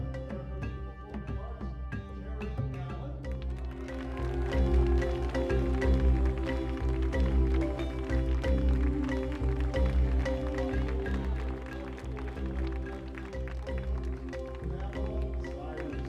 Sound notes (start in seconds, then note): 3.9 audience clapping; 7.1 soft rhythmical music; 12.5 music drowns out dialog